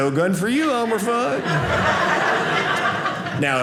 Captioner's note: audience laughing